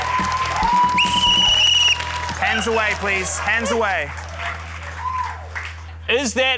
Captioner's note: blows whistle